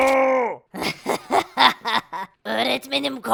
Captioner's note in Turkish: Gülme sesi